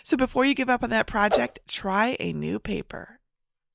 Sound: paper whooshing

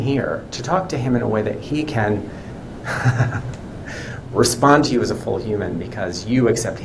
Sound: laughs

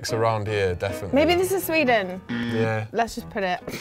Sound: alarm

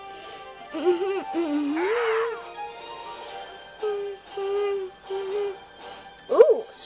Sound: humming super awesome tune

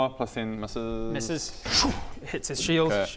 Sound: schoom

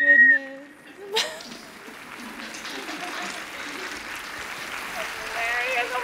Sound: applause

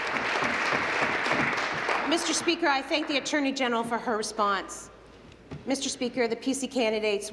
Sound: applause

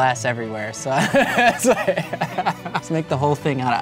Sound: laughs

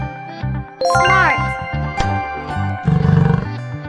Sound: bull sound

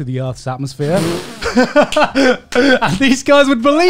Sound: everyone laughs

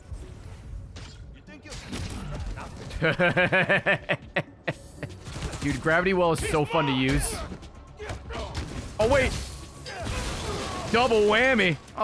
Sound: laughs

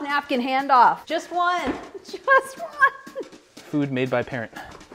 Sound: laughs

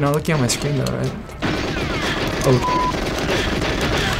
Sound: gunfire

